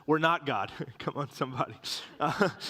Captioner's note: Riéndose